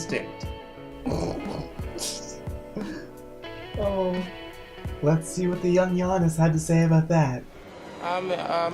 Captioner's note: laughing